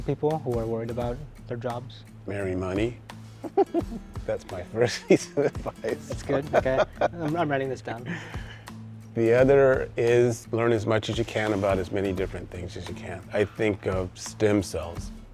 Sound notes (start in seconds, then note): 3.4 laughing